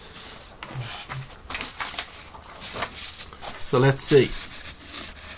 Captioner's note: shuffling papers